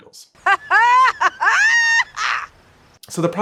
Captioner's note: woman laughing